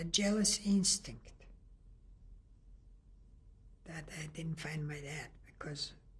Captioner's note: pauses for 3 seconds